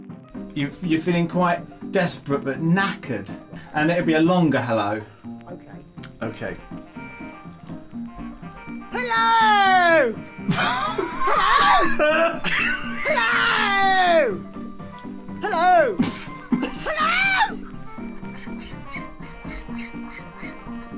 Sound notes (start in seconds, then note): 10.5 starts laughing; 17.5 tries to hold back laughter